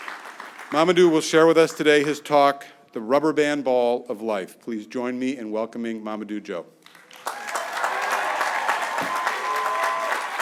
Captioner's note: applause